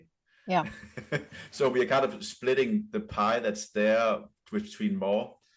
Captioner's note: chuckles